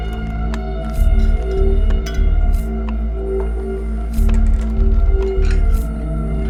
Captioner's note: clamoring of tools